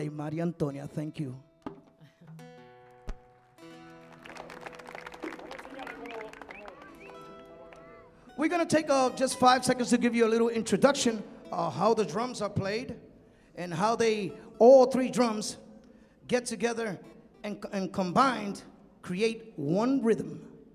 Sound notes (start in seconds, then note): 3.3 audience clapping; 3.9 audience cheering